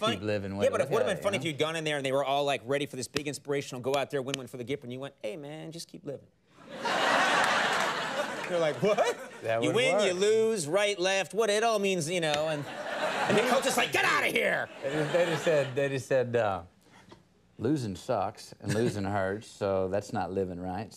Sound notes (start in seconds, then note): 6.6 studio audience laughs; 14.6 studio audience laughs